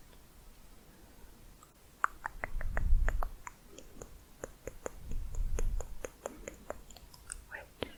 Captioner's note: tongue clicking